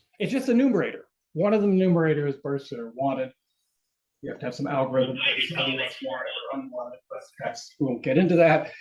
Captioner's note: radio clearance